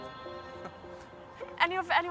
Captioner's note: chuckles